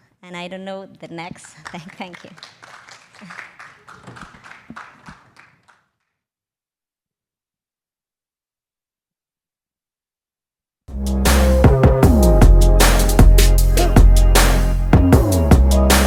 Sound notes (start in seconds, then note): 1.4 audience applauding; 10.9 upbeat music